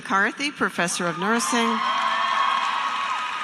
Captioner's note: applause